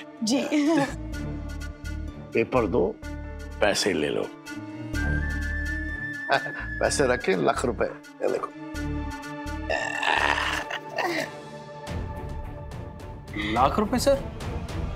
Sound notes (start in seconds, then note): 9.7 chuckling